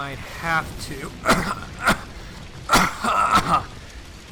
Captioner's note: rampant coughing